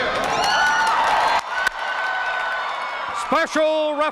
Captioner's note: crowd cheers